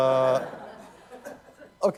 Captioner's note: laughter